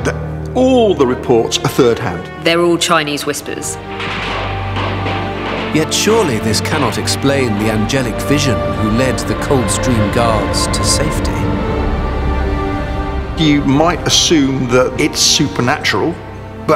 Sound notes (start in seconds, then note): 4.0 guns roaring; 4.0 melancholy music; 11.4 melancholy music